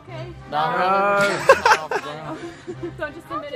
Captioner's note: laughs